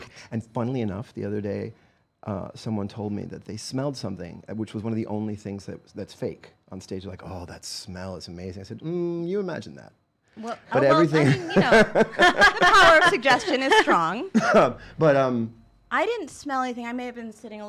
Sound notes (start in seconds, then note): 10.8 laughing